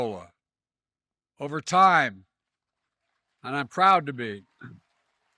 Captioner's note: applause